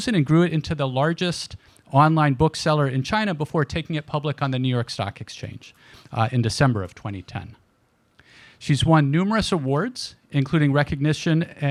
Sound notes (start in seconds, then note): none